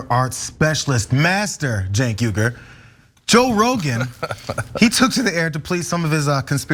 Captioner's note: laugh